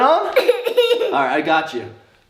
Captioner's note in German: lacht